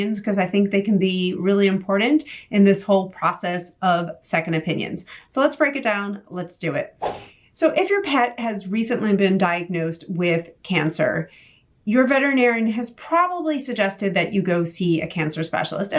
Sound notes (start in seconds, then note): 7.0 air whooshes